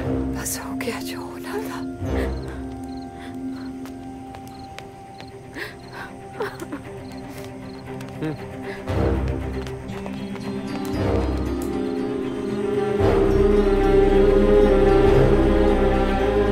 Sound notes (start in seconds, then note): 3.7 Footsteps; 5.5 Sobbing; 5.6 Crying; 9.4 Footsteps